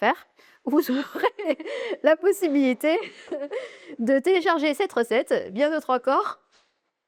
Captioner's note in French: rires